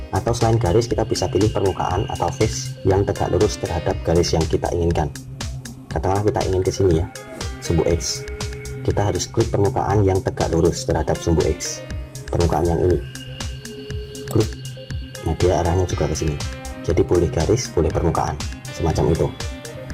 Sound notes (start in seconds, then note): 14.4 click